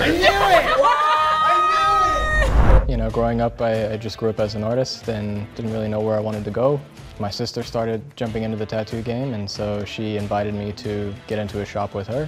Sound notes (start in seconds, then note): 2.0 people laughing